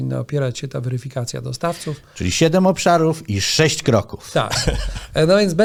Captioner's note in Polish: śmiech